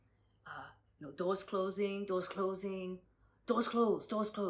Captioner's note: in Japanese accent